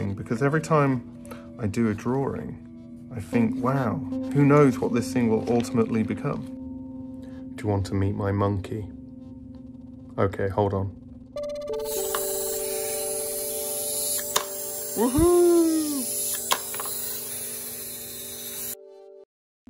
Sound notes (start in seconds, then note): 13.2 toy squeaking